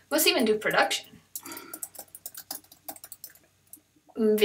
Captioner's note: typing sounds